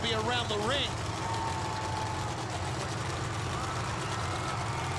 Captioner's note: engine rumbling